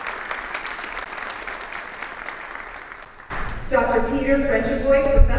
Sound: audience applauding

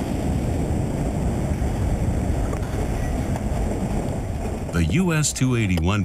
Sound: explosion

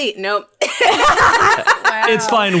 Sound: all laughing

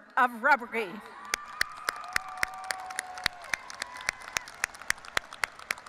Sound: audience applauding and cheering

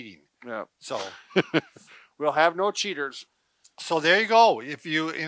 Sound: laughs

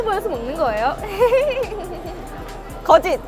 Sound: hehehehehe

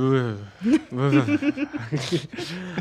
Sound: sighs

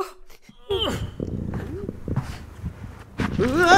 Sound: sniffling; grunts

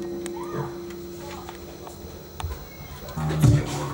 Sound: music stops; person yells in distance; sultry reggae music plays

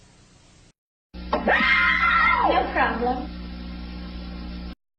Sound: kids screaming

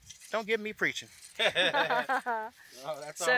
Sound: laugh

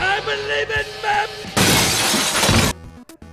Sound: glass shatters

